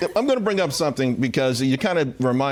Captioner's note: laughter